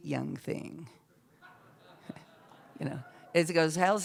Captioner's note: scattered laughter